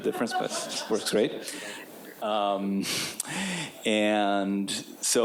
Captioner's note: audience members laughing